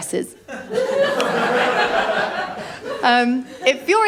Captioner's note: laughter